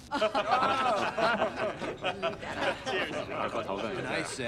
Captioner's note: all laugh